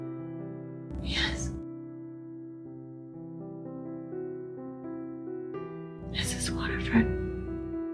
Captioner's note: whispering